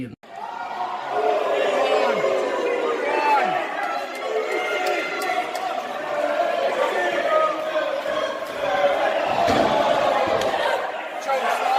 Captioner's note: Crowd cheer as a count of three declares Commander Sterling victorious